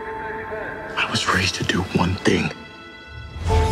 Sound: voiceover

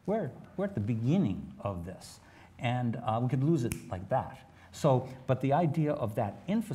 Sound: snaps

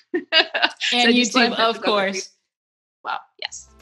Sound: laughs

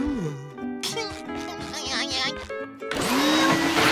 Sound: giggling

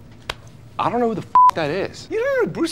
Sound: beeping

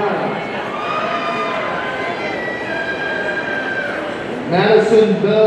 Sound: audience cheering

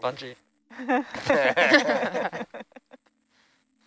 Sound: male Voice; laughter

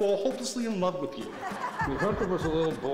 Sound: audience laughing

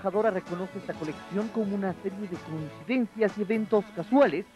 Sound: speaking Spanish

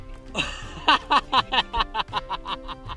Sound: laughing

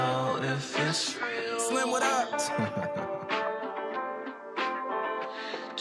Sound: chuckles

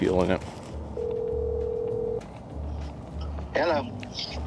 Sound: phone ringing

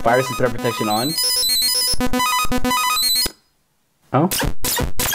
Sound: beeping sounds

